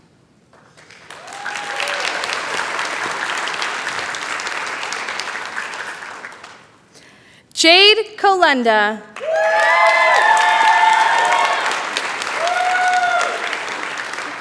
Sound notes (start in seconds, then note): 0.5 applause; 9.1 cheering